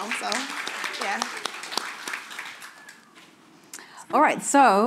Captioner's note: audience applauding